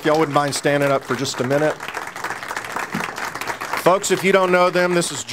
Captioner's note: audience applauds